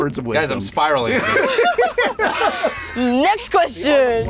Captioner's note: laughter